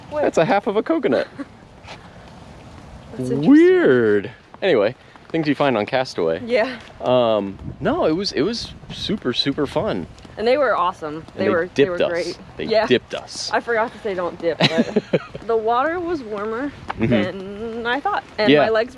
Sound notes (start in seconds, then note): 1.1 chuckling